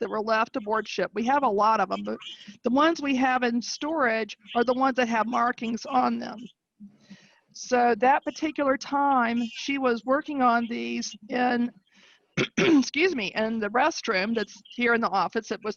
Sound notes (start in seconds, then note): 12.4 clears voice